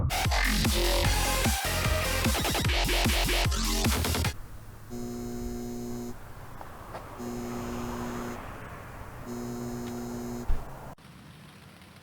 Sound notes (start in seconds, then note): 4.3 music stops, sign buzzes intermittently